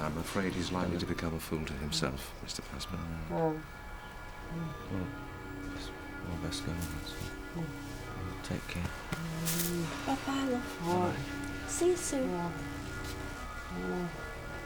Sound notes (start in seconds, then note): 9.3 muffled groaning